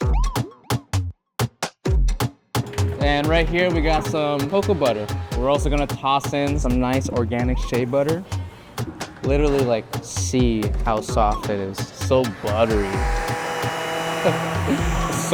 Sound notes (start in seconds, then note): 0.1 lively music continues; 11.5 mixer whirring; 14.2 chuckling